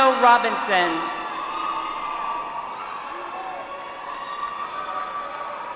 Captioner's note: audience applauds